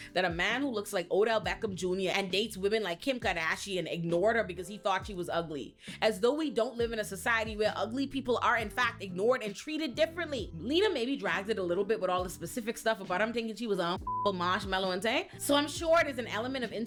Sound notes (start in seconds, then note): 14.0 beep